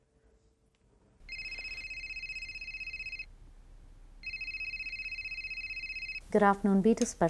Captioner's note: phone ringing